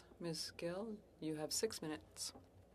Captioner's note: speaking in French